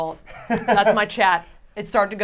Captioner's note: laughs